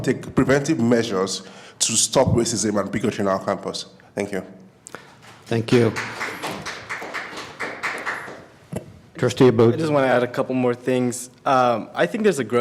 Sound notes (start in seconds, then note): 5.0 applause